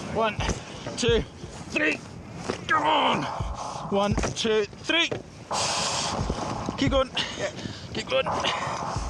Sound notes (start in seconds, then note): 5.4 breath swooshing